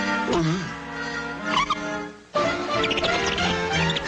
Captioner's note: Salomi gulping; gate squeaking